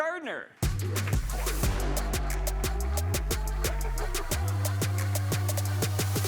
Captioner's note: upbeat music; crowd applauds